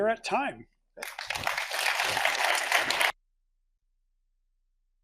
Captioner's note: audience applauds